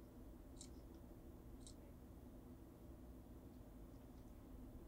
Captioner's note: mouse clicking